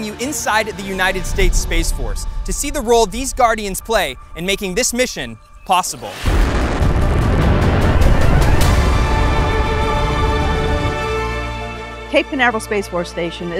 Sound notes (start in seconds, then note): 6.3 dramatic music continues; 6.3 engines roaring